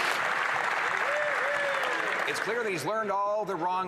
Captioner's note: some Applause